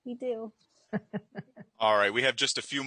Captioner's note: chuckling